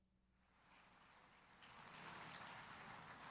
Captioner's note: cheers and applause